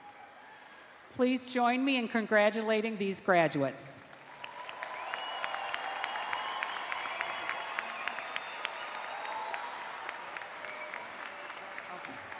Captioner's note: cheers and applause